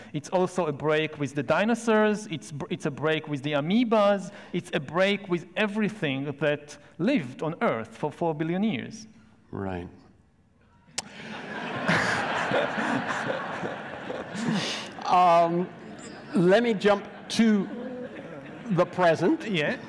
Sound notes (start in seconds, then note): 10.8 laughs; 12.0 audience laughs